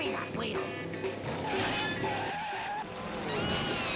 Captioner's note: tires screeching